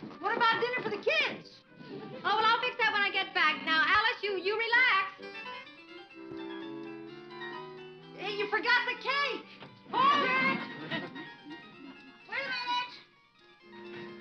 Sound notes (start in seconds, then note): 5.7 upbeat music; 10.0 audience laughing